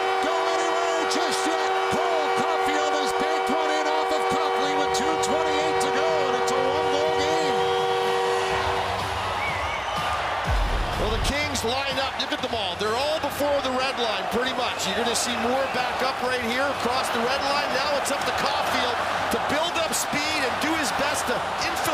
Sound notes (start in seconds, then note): 8.5 horn; 8.9 cheering; 15.3 horn; 15.8 cheering; 16.2 applause